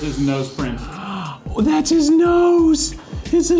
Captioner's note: gasps